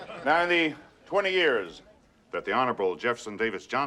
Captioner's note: laughing